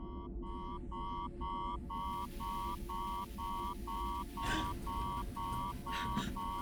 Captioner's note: alarm beeping